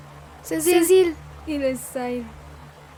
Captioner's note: in fairy language